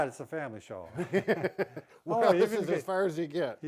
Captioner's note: both laughing